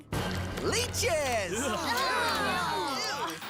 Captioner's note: campers Exclaiming